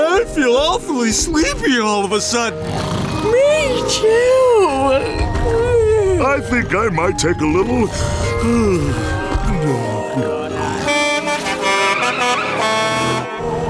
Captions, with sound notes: But I feel awfully sleepy all of a sudden. Me too. I think I might take a little... [yawning] [truck horn honking]